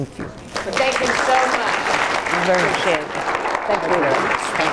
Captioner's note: applause